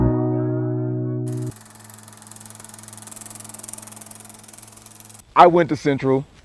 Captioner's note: old film projector